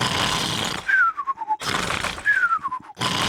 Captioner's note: sighs happily; george snores loudly